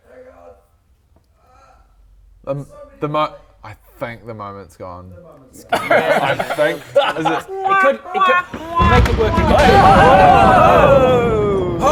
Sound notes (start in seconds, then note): 1.3 cry of pain; 8.4 dramatic perfectly-timed crash of thunder